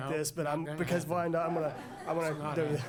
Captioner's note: laughter